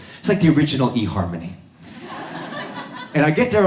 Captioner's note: audience laughs